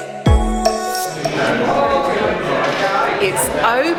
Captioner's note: crowd milling about